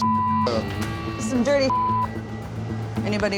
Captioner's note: beep